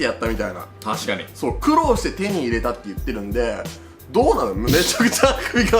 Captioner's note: holding back a yawn